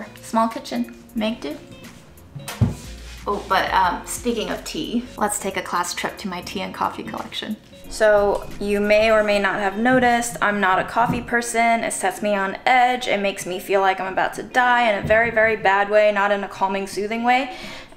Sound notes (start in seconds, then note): none